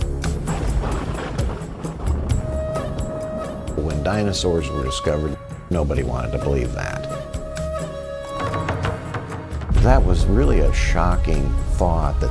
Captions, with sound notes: (thunder rumbling) - When dinosaurs were discovered, nobody wanted to believe that. That was really a shocking thought,